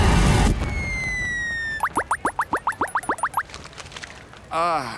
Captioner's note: chirping